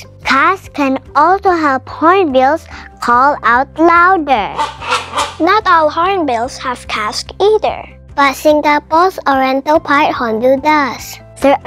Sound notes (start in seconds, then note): 4.5 hornbill call